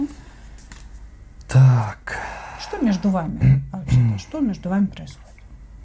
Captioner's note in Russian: вздыхает